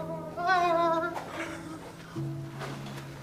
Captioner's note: Patrick whimpers